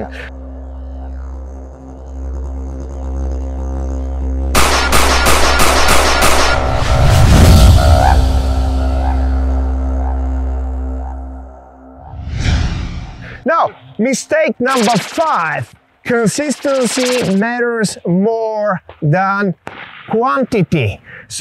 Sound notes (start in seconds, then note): 0.2 suspenseful music begins; 4.5 pistol firing